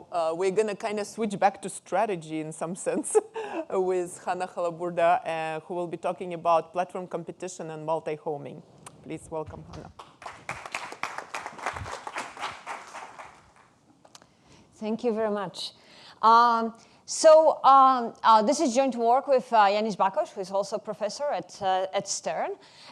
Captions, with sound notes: We're gonna kinda switch back to strategy in some sense (chuckles) with Hanna Halaburda, who will be talking about platform competition and multi-homing. Please welcome her. (audience applauding) - Thank you very much. This is joint work with Yannis Bakos, who is also professor at Stern.